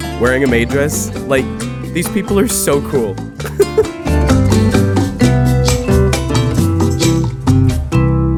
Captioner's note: laughs